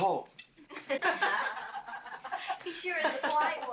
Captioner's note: women laughing